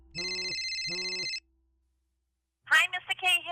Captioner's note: ringing